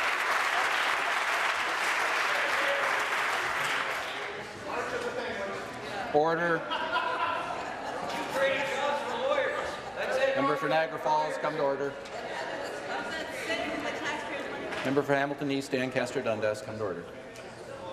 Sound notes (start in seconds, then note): 1.7 applause